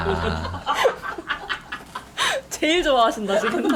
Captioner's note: the laughter seems louder